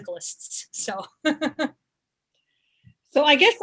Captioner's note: laughs